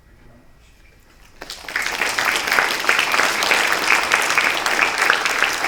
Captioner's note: applause